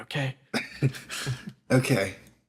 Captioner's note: laughs